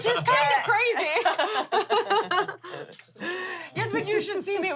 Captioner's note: laugh